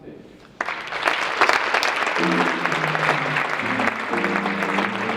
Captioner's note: audience clapping; jazz music